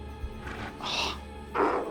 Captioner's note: sighs